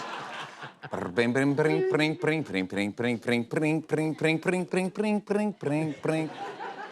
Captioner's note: imitating harpsichord